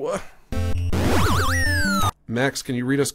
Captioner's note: game warbles